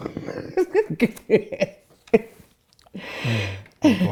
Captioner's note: laughing